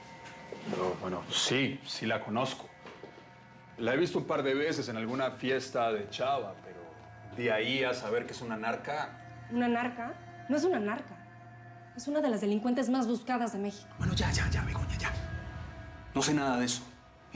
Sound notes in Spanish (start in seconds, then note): none